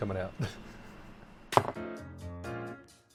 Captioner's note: laugh; jazzy music